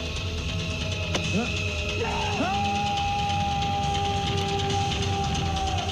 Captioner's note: intense rhythmic music; man screaming